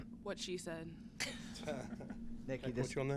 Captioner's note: laughter